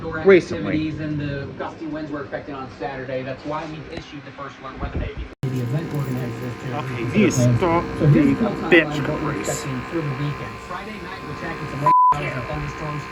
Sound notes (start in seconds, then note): 0.9 TV continues to play in the background